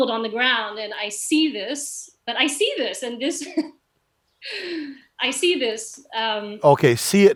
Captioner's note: laughs